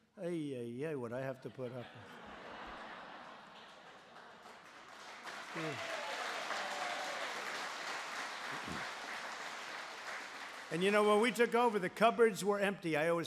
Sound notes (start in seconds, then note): 4.3 laughter and applause